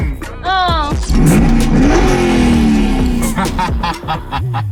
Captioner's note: engine revving; laughs